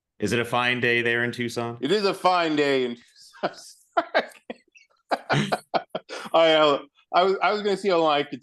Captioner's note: both laugh